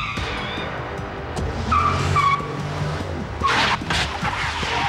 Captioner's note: squealing tires